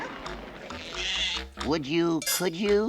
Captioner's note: goat bleats